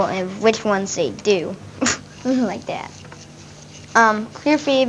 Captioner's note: laughs